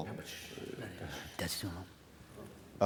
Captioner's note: foreign Language